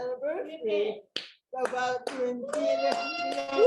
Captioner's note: audience clapping